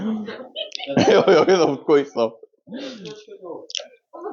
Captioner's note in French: On entend des rires